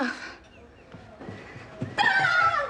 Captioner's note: playful shout, laughing